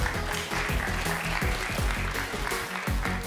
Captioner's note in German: Applaus; elektronische Musik